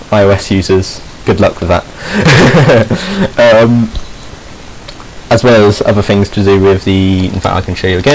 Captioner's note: he snickers